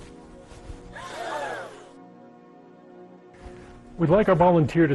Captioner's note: audience gasps